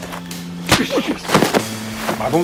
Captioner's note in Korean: 철썩